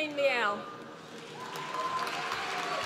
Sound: applause

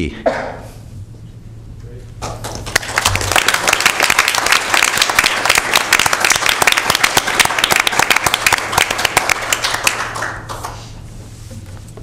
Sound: applause

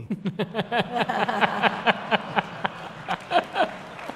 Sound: laughter

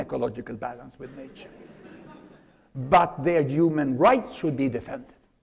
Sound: laughter

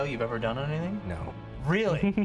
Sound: laughs

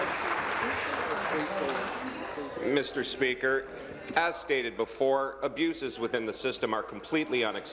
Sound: applause

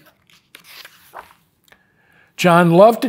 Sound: pages rustling

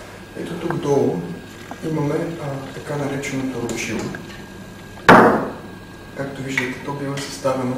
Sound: drone

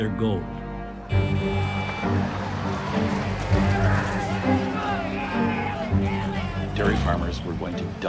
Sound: horn honking, people shouting

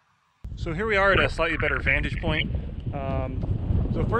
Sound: windy

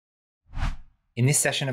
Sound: whooshing

